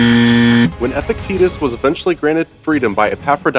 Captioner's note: buzzer